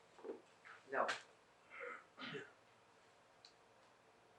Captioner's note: pauses 6 seconds